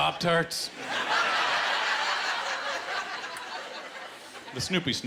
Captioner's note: laughter